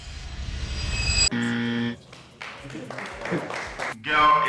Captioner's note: clapping